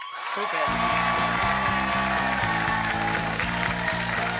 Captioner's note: crowd cheering